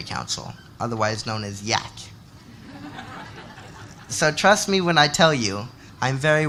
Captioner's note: laughter